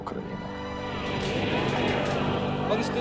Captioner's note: crowd cheering